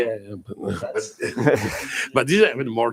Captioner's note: laughter